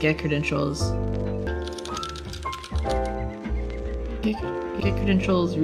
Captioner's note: typing